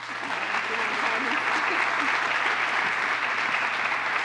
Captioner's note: applause